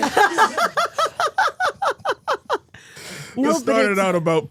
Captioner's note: Steph laughing